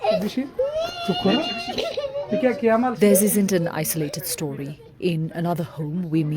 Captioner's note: child crying